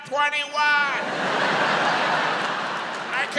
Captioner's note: audience laughs